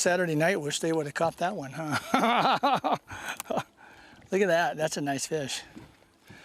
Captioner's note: laughter